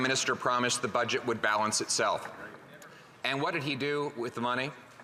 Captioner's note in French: voix de l'interprète